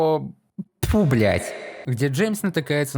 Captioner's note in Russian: Громкое эхо